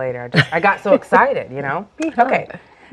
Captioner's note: laughs